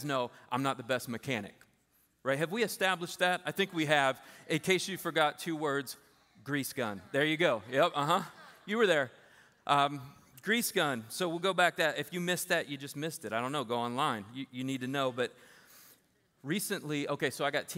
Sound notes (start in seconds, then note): 7.9 laughter